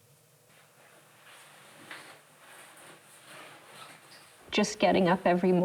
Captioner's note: fabric rustling